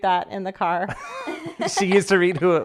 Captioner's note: laughing